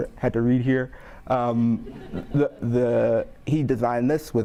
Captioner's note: audience laughing